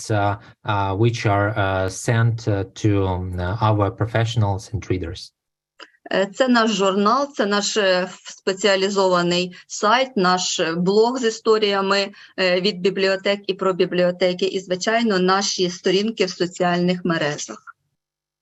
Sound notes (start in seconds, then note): 6.0 foreign Language Spoken